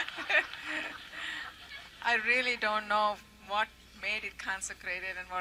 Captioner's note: laughter